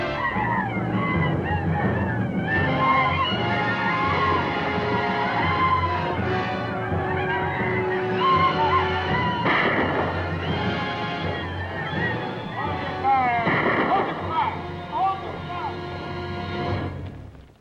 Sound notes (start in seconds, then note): 0.3 Indians howl; 2.8 dramatic orchestral music; 9.6 gun fires